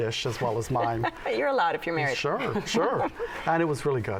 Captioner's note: chuckles